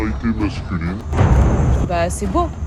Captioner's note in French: boum